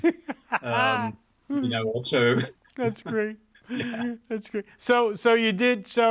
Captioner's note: laughs